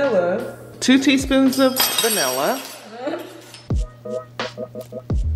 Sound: spoon clanking

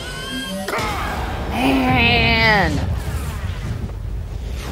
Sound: Black Panther shouts

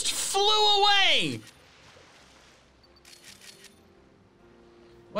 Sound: photo snapping

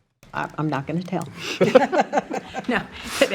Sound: trustees laughing

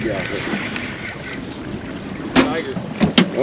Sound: reel cranking

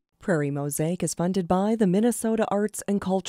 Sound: voiceover

